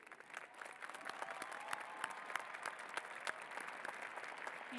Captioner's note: applause